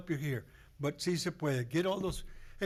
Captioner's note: foreign language